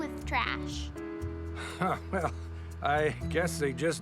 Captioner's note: chuckling